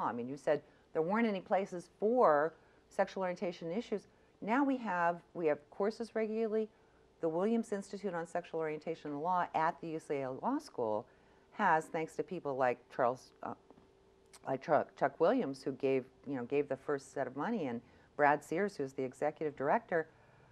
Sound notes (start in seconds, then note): none